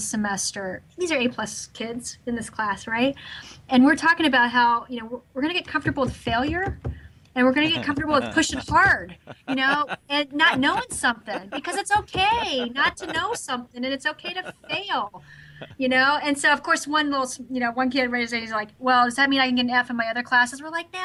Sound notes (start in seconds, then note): 7.6 laughs